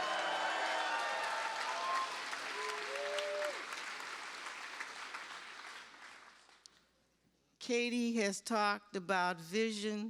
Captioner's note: cheers and applause